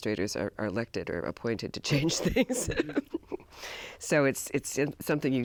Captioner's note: laughs